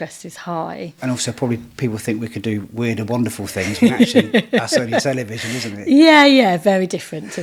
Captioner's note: laughing